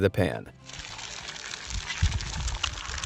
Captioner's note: egg sizzling; light, upbeat music